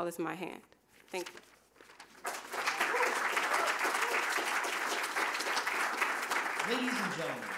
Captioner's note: applause